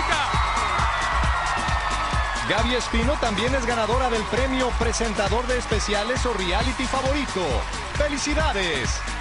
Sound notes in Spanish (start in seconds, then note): 6.9 gritos y aplausos